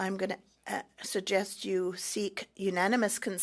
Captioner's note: speaking French